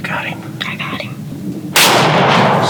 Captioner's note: whispering